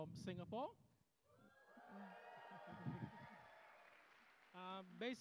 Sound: cheers

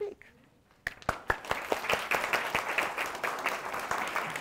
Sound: applause

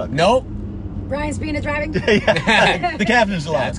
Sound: laughter drowns out speaker

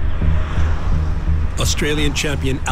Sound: vehicles whooshing

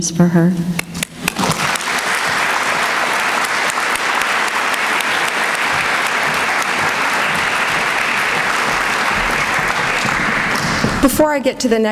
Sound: applause

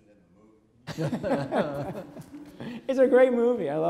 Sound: Michael laughs

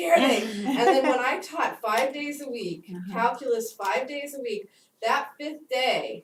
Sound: laugh

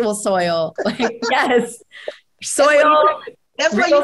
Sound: group chattering

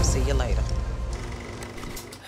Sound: loud rumbling

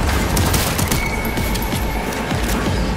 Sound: gun firing

